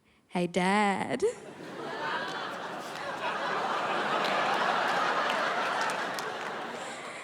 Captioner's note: crowd laughs